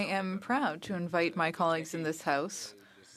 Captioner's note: speaking in French